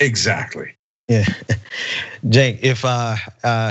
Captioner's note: laugh